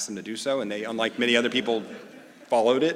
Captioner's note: laugh